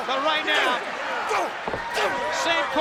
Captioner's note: Vader grunting